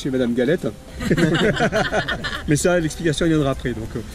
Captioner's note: laughs